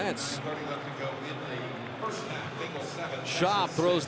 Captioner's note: pa announcement